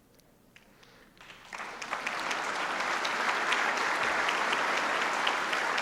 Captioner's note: applause